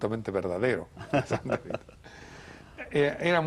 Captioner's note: risas